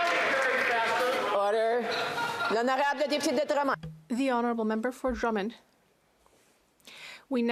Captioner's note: some Applause